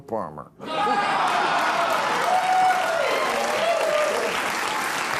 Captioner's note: audience cheering, applauding